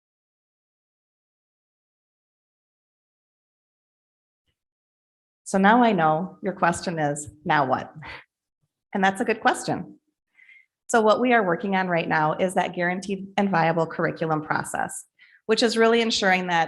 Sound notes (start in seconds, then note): none